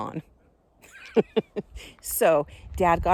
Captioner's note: she laughs